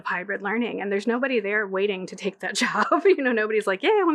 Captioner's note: laughing